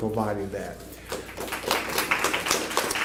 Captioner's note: applause